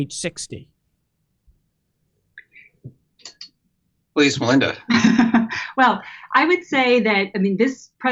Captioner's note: laughs